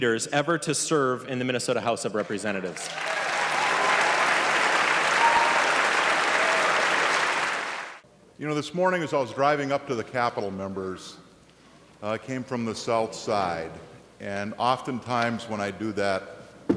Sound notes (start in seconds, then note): 7.0 applause